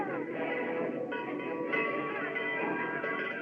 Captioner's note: bell Clanging